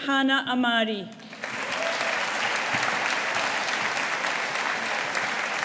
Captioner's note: audience applauding